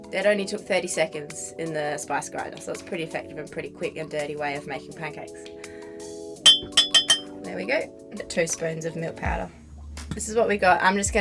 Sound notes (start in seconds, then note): 6.4 glass dinging